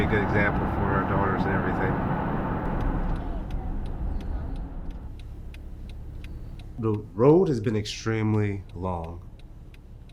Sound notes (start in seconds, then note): 2.6 turn signal clicking